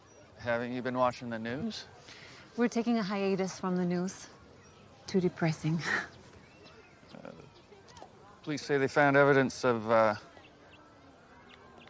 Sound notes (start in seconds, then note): none